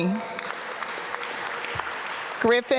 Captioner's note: applause